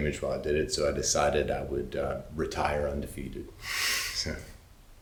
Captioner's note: chuckles